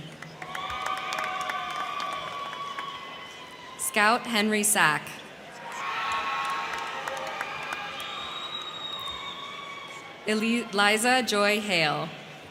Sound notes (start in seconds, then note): 0.0 crowd clapping; 0.2 crowd cheering; 5.5 crowd cheering; 5.7 crowd clapping